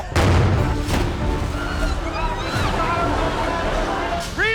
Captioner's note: people screaming